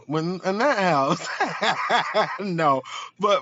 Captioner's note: laughing